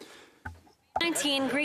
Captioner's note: speaking French